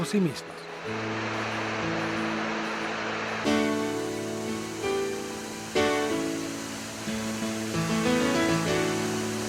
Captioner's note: sound of waterfalls